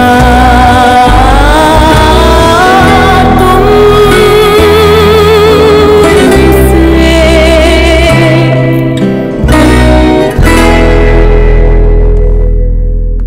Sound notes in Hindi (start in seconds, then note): none